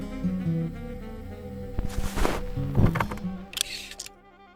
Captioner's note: whooshing